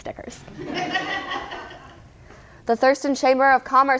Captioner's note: all laugh